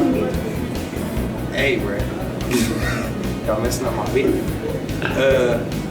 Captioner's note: laughter